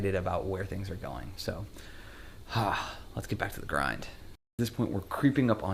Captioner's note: sighs